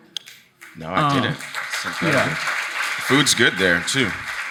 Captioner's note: audience applauding